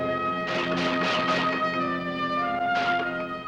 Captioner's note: guns firing